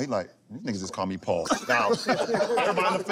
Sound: laughter

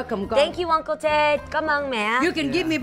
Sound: speaking foreign language

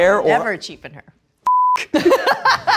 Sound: beeping; laughing

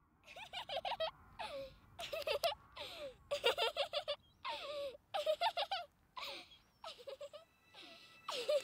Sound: childs laughter

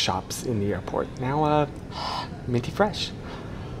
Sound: exhales

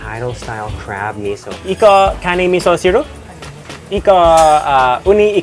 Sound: speaking Japanese

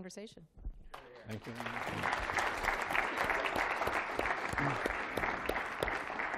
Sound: applause

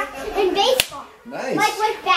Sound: hands smack

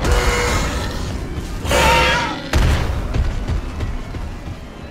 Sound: Scorpius Rex screeches

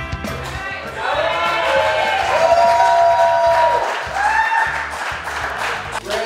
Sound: cheering & Clapping

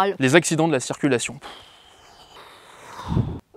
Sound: Trollix blows

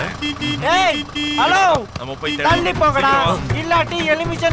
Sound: horn blares

